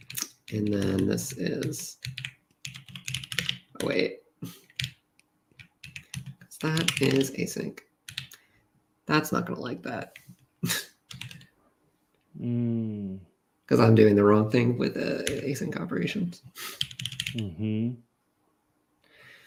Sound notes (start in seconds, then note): 12.5 laughs